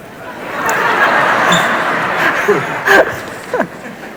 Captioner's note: audience laughs